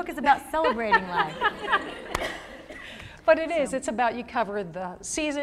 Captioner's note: laughter